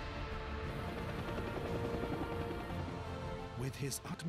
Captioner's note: thrilling music; helicopter whirring